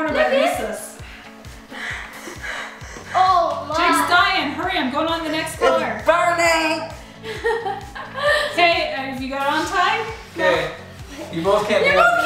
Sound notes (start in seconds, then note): 1.0 panicked breathing; 7.2 laughs